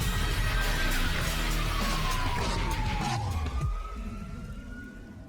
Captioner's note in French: sirène de police hurlant